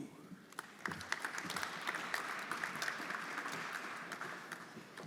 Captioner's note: everyone applauding